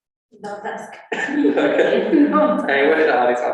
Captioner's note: laughter